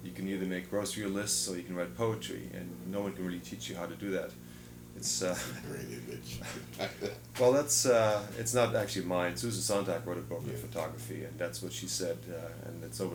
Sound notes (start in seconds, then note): 5.3 laughs